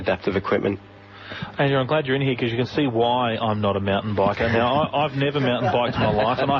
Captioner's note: group laugh